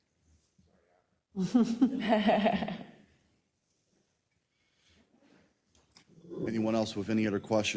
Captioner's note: laugh